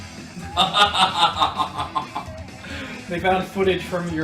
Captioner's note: laughs